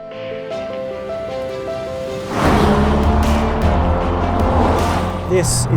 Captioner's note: upbeat music continues; vehicle revs